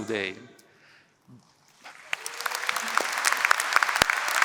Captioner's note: applause